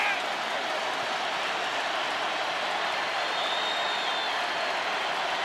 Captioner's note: crowd roaring